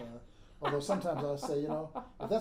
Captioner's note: laughing